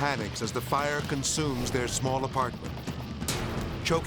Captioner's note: fire roaring